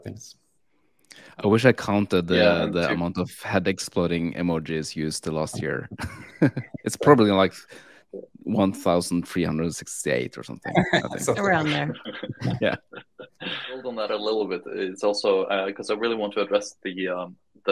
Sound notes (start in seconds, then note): 14.4 laughing